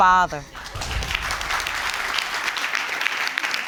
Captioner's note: audience applauding